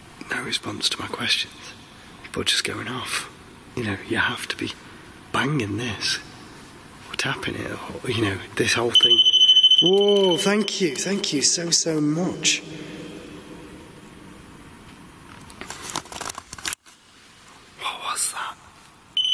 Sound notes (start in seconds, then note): 8.9 digital beeping